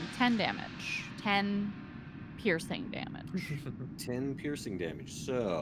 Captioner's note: Cornette laughs